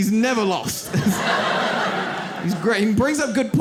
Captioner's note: audience laughs